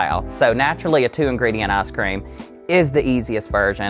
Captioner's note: none